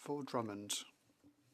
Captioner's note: speaking French